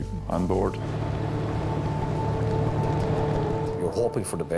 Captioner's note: engine rumbles